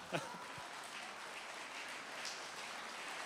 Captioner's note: applause begins